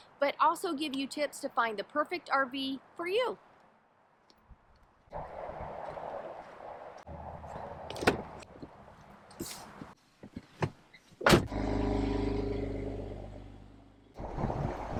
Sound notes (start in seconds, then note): 8.2 car doors opening and closing; 11.4 engine revving